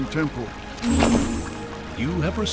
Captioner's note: chiming swish